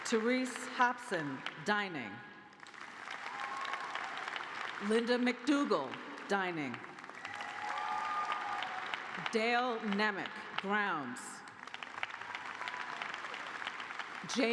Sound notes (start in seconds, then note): 3.3 applause; 6.7 cheers and applause; 12.6 applause